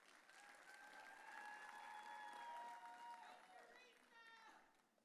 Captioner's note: audience cheering